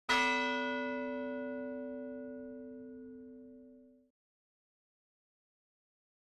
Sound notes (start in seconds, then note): 0.1 bell rings